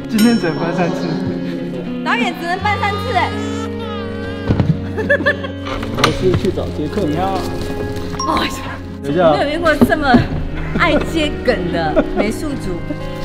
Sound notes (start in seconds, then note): 4.9 giggles; 8.2 sighs